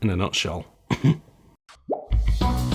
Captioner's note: clears Throat